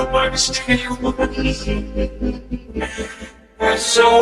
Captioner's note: laughing